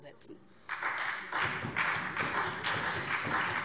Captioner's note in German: Beifall SPD, Freie Demokraten und DIE LINKE